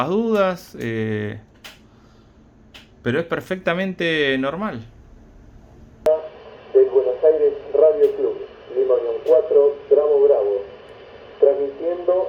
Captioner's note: repeater Station transmits its periodic identification broadcasting